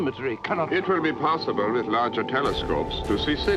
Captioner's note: male Voice